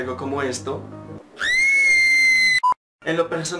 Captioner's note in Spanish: Grito